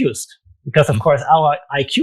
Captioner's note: mmhmms